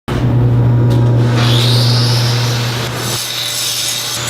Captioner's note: machine sounds